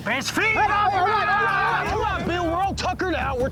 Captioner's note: men yelling